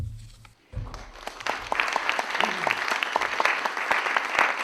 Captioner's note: applause